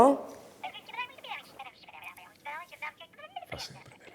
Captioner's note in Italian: vociare indistinto